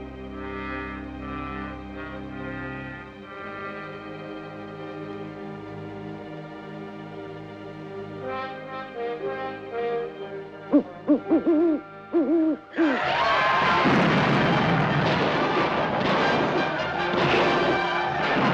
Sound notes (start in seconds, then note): 11.0 imitating owl; 12.7 all screaming; 16.1 gunshots